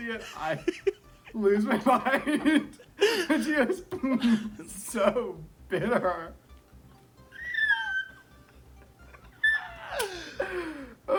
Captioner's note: laughing; squeaks, then gasps